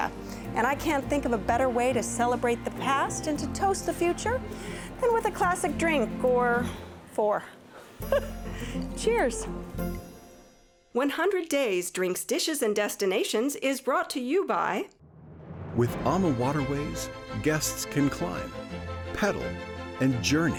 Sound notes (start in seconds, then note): 7.6 laughing